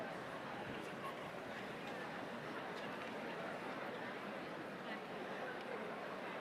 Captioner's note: audience members chattering indistinctly